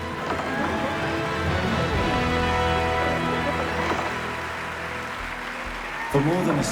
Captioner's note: applause